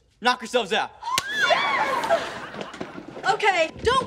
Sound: cheering

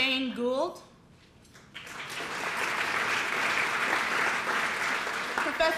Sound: applause

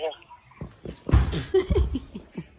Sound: laughter

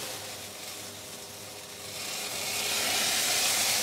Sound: sizzling

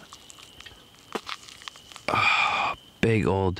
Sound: bones breaking

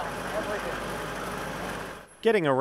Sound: low rumbling engine

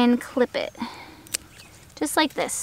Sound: scissors snipping

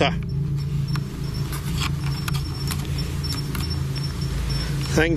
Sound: device beeps

